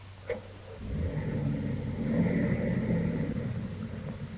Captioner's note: engine rumbling